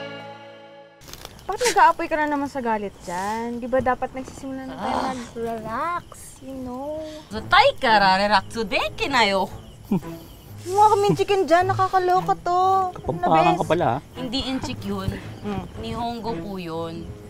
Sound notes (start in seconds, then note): 5.5 sighs heavily